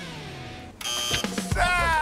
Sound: buzzer

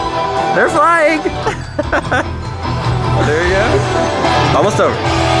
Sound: laughs

